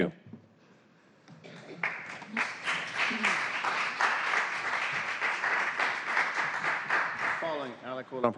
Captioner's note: applause